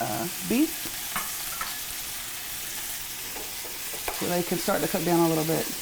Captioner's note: beef sizzling